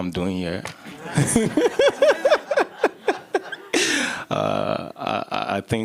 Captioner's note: laughter